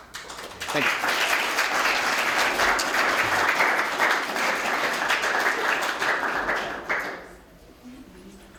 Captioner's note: applause